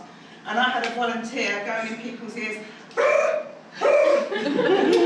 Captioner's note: laughter